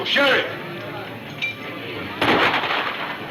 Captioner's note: gunfire pops